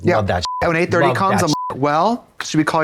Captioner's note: beep